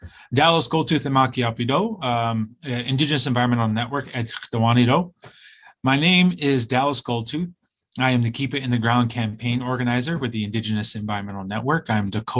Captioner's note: speaking in native tongue